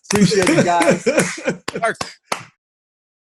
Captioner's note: chuckles